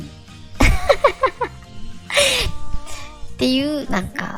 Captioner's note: laugh